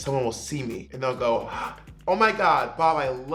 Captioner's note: gasps